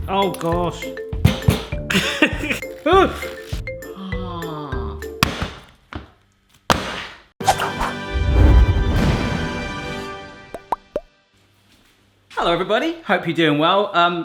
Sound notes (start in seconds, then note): 1.7 crying; 7.9 upbeat music